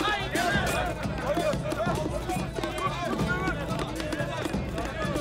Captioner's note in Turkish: Tezahürat sesleri